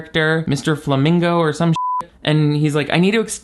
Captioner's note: beep